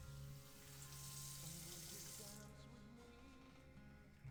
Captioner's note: water splashing